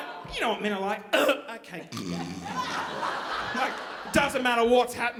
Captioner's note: snoring; shrieking